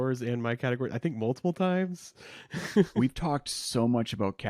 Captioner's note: chuckles